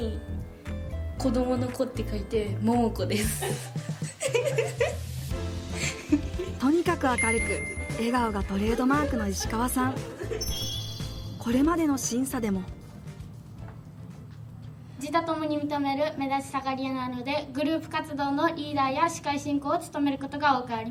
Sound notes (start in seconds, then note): 3.2 laughs